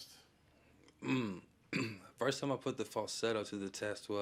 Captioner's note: clears throat